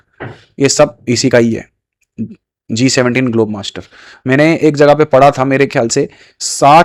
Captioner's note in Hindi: नाक से की जाने वाली आवाज़